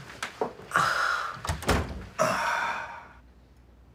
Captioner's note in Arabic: زفير